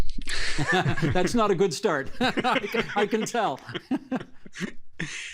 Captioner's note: laughing